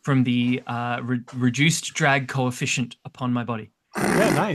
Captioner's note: makes revving sounds